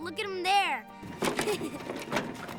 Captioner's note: chuckles